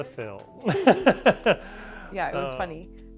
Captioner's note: both laugh